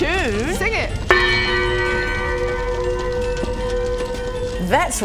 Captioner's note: gonggggggg